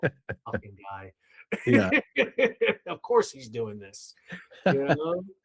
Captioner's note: laughing